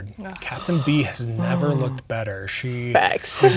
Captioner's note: players reacting